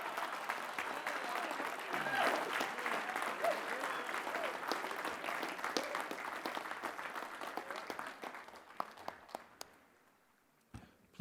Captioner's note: applause